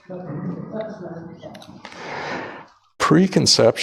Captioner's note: audience laughs